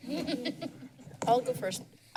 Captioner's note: laughs